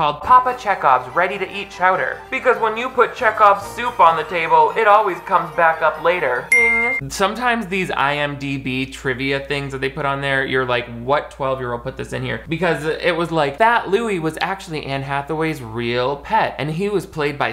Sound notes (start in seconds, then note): 6.5 cartoonish winking sound